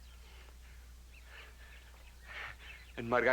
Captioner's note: chuckling